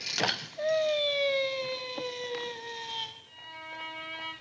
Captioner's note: screech; off-tune violin music